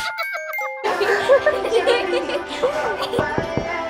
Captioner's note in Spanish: Rién